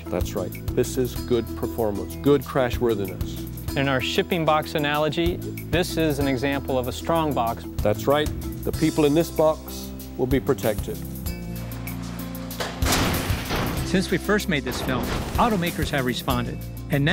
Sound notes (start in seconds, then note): 11.6 car crashing